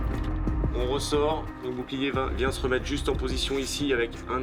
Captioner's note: French spoken audio